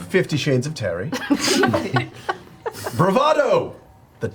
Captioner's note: all laugh